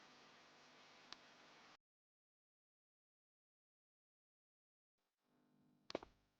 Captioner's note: the device let out a sharp burst of static, then fell into complete silence